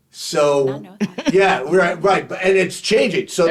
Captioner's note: laughing